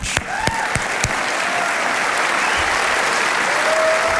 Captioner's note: audience applauding